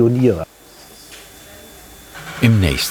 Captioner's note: whirring, quiet voices